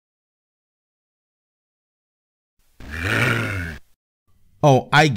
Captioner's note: 300 DOOM zombies scream